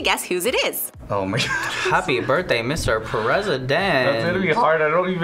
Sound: laughs

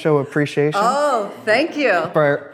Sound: audience laughs

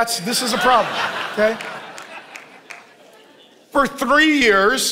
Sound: congregation laughing

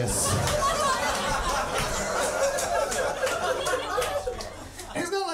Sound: audience laughing and applauding

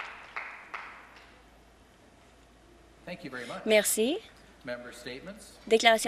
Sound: some Applause

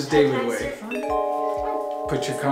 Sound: chime noise

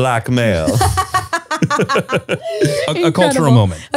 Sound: everyone laughs

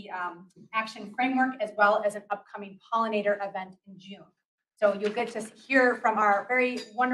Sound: papers rustle

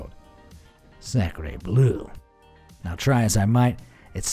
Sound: speaking in foreign language

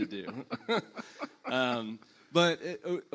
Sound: panelists laugh

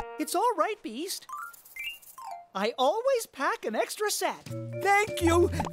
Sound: spots popping

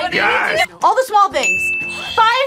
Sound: bell rings

